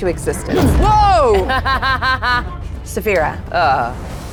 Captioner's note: laughing